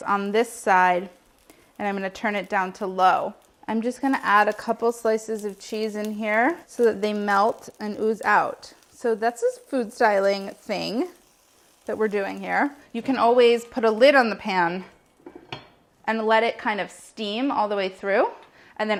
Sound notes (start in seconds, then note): none